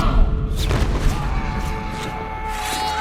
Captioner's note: yelling